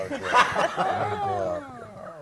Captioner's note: laugh